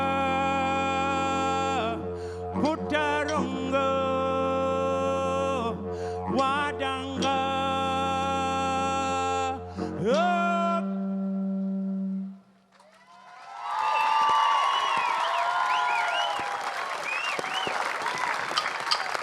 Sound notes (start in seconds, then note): 12.7 cheering, applause